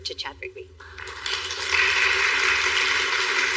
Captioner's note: people clapapping